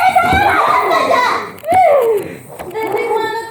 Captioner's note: huffs in frustration